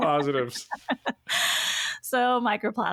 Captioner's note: laughs